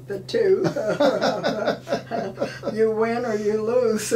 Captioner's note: laughing